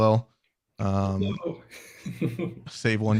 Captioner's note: laughs